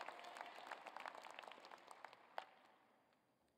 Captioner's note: applause